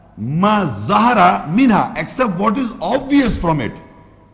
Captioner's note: Arabic